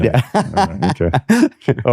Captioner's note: laughs